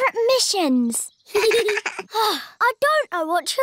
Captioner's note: both laugh